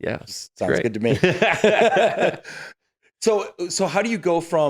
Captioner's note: laughing